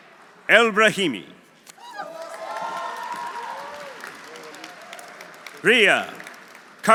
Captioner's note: audience applauding; audience cheering